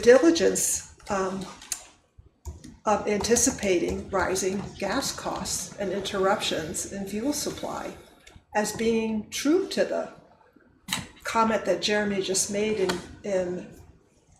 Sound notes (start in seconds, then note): none